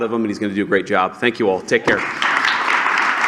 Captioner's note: applause